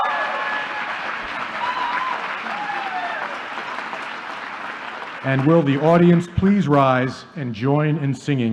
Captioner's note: applause